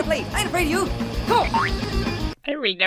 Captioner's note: spring boings